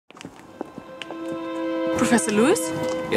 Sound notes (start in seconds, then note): 0.2 footsteps thudding; 0.2 tense music